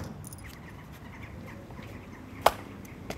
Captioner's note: birdsong